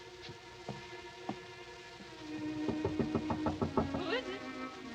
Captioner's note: knocking on door